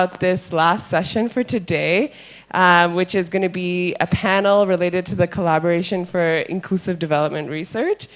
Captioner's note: none